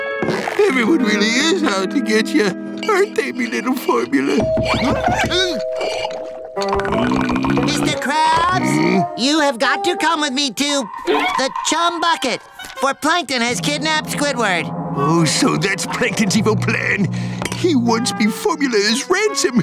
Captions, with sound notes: Everyone really is out to get you, aren't they my little formula? [doorbell ringing] Mr. Krabs? You have got to come with me to... the Chum Bucket. For Plankton has kidnapped Squidward. So that's Plankton's evil plan? He wants my formula as ransom.